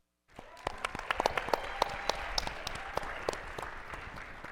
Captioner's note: attendees applauding